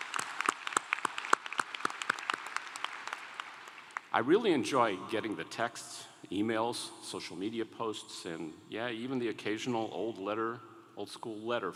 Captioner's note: applause